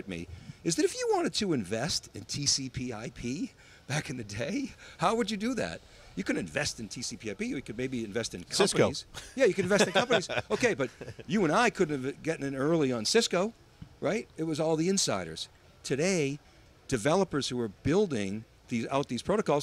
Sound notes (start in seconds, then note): 9.2 laughs